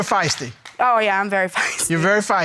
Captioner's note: laughs